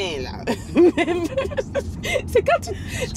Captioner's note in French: rires